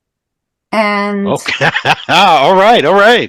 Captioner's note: laughing